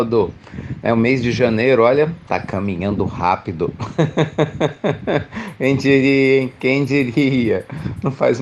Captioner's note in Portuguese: Risos